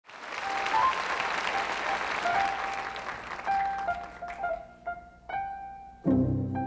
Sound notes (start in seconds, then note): 0.0 audience applauding; 2.2 lively piano music